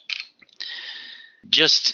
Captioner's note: typing